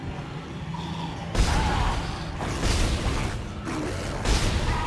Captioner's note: dramatic music; gunshots; screaming